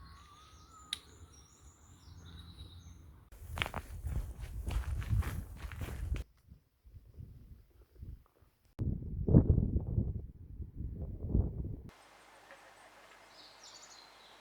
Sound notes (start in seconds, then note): none